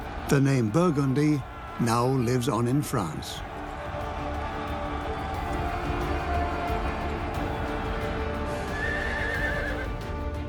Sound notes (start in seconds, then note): 3.4 battle cries; 8.7 horse neighs